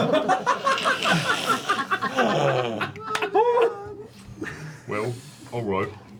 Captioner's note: laughter